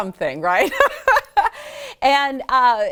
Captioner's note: laughs